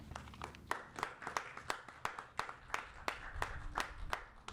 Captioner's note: applauding